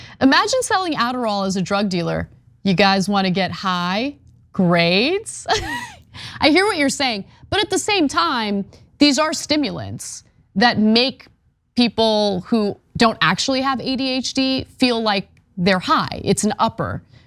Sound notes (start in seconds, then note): 5.5 laugh